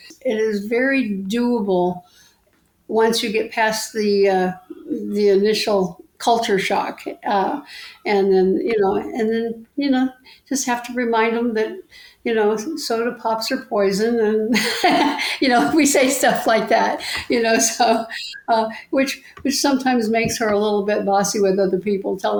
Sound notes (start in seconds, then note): 14.6 laughs